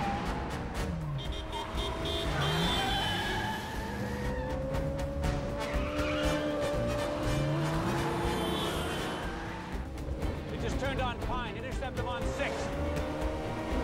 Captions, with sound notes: ( horn honks ) They just turned on Pine. Intercept them on Sixth.